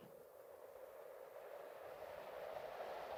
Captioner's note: wind howls